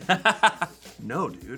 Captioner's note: laughs